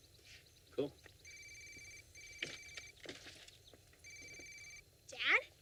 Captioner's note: phone ringing